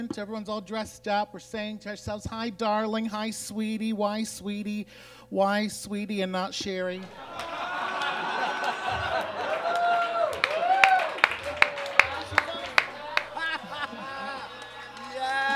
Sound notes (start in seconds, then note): 7.0 audience groans and laughs; 10.8 audience cheers and claps